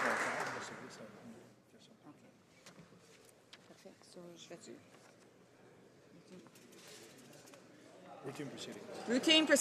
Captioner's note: some Applause